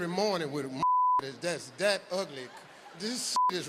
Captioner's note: beep; beep